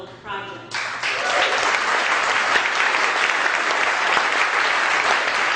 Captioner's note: audience applause